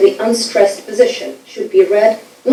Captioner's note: speaking foreign language